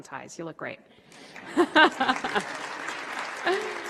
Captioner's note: applause